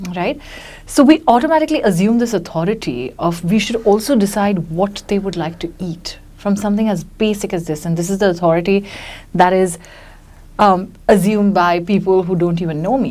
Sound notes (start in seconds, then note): none